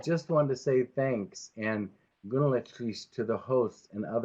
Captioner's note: speaks in foreign language